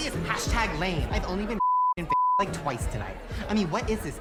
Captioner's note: beep